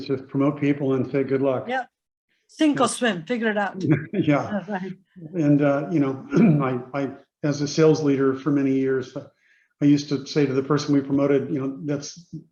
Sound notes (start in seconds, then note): 3.8 Doug and Indra laughing